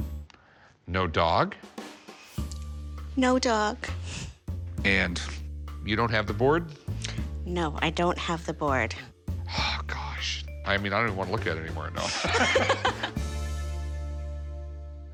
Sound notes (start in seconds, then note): 12.0 both laugh